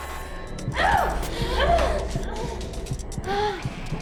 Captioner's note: Kira grunting; tense dramatic music